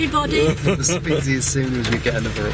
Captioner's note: chuckling